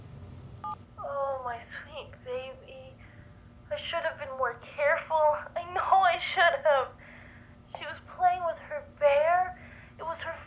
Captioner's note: voice recording playing